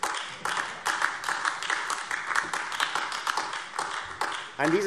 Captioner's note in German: Beifall AfD